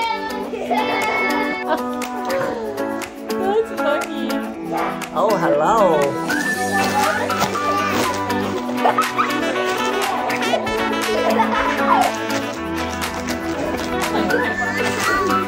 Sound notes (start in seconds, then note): 0.2 energetic music; 6.4 party horns blow